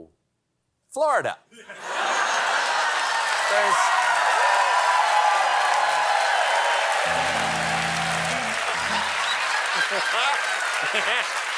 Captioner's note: cheers and applause